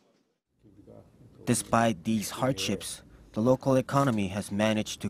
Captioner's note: Korean